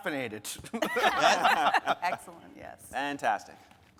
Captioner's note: speakers laughing